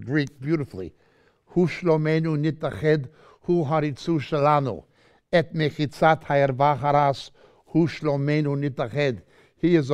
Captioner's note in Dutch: Hebreeuws